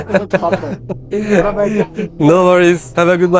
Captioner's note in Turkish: kahkaha